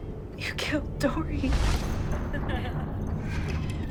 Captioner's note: laughter